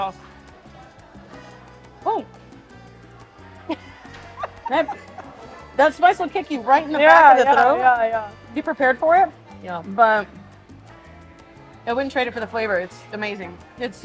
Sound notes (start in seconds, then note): 0.3 carefree music continues; 3.7 chuckling